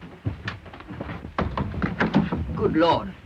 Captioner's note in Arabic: صوت الباب ينفتح